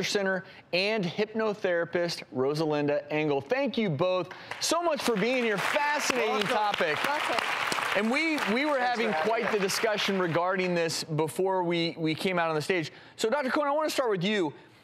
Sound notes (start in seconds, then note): 6.5 audience clapping